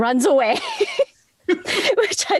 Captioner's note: laughs